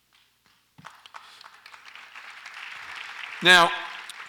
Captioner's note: audience applauds